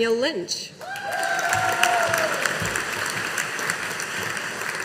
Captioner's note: audience applauding